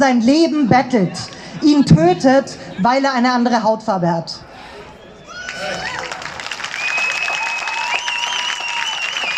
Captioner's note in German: Applaus